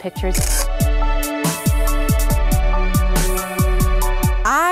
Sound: shutter clicking

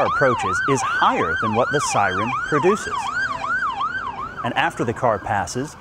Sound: siren wailing

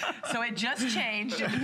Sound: laughter

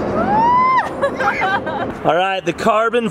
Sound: laughing

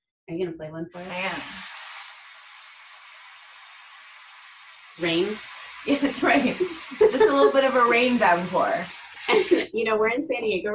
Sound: rain sound

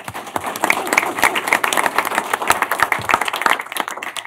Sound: applause

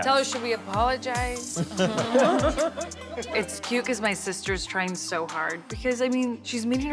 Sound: laugh

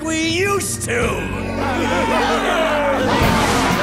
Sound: laughing

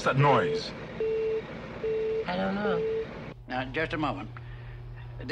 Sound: mysterious beeping

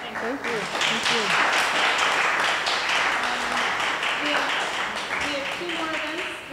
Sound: audience members applaud

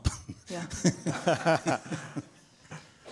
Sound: laughs

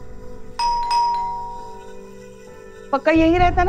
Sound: door bell ringing

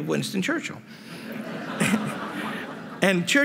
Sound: laughter

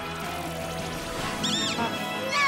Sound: squeak

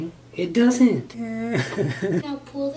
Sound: sobs

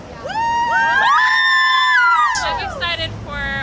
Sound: girls screaming

